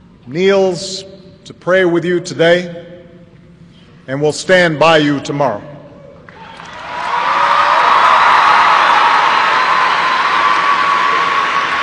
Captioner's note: applause